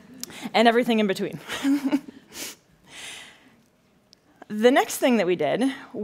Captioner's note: laughing